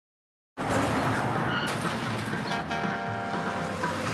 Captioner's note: tires screech